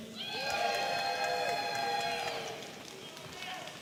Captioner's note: audience cheering